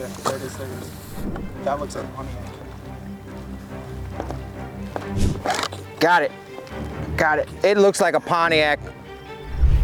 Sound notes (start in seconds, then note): 3.1 suspenseful music; 5.1 rope rasps